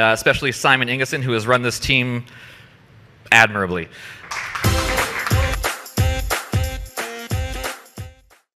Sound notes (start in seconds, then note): 4.2 crowd applauding; 5.9 upbeat music